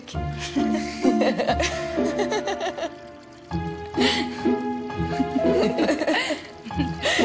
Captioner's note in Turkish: kahkaha atıyorlar